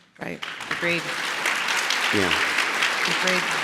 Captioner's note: audience clapping